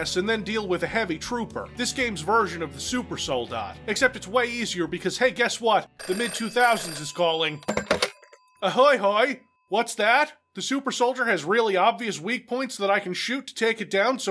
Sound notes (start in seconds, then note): 6.0 phone ringing, picks it up